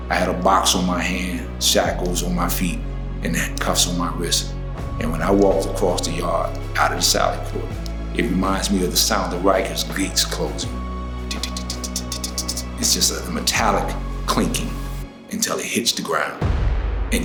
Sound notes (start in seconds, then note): 11.3 ticking